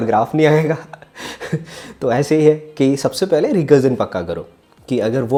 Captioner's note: laughs